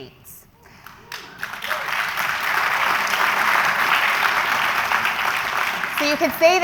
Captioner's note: applause